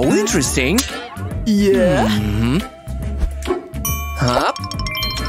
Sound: sighs

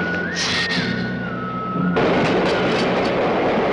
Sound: hissing

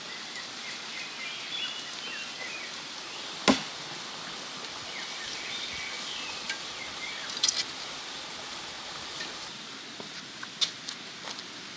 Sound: sound of nature

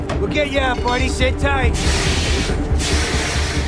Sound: hissing

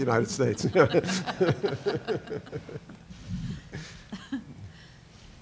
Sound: laughter

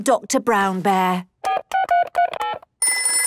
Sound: dial tones beeping; ringing

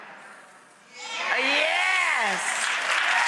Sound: cheers

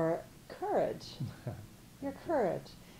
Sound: chuckling

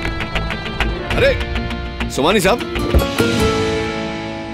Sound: car door opens

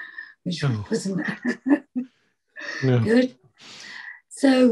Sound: chuckles

